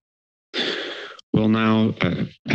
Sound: inhales

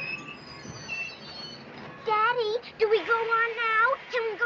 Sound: train brakes screeching

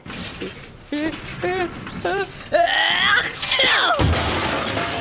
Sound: sneezing; crash

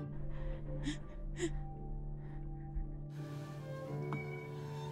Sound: heavy breathing

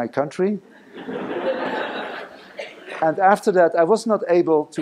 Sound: laughing

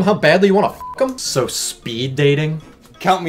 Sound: beep

